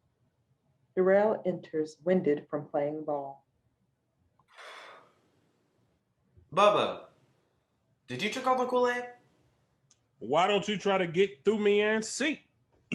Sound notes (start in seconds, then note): 4.5 heavy breathing